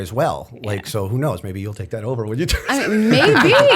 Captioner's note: laughter